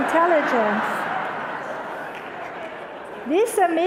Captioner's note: audience laughter